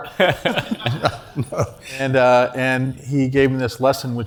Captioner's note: laugh